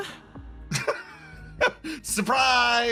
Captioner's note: laugh